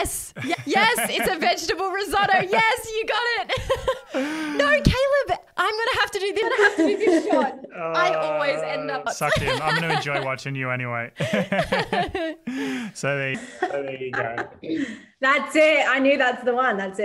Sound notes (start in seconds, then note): 3.8 laughs; 11.1 laugh